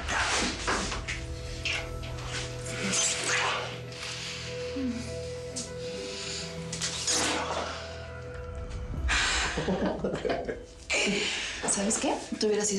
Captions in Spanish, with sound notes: - VEN ACA... [Gemidos] [Risas] - ¿SABES QUE?